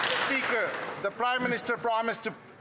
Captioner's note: some Applause